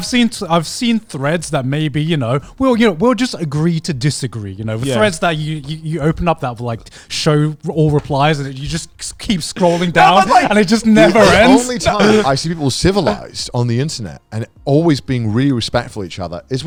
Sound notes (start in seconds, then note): 9.6 laughing